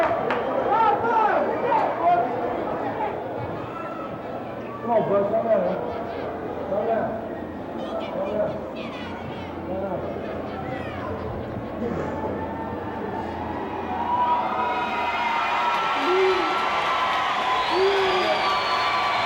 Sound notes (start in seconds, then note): 14.5 crowd cheers